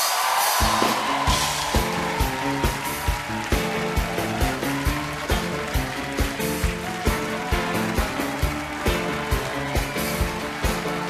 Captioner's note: cheers and applause; band playing